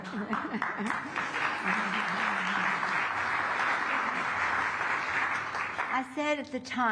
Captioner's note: applause